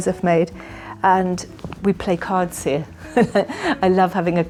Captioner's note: chuckles